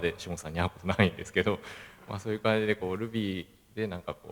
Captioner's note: laughs